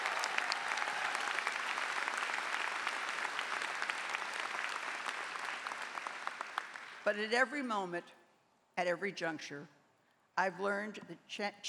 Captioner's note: applause